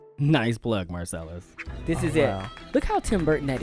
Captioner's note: applause